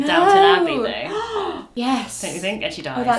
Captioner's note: gasps